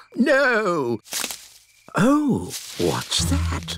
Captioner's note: rustling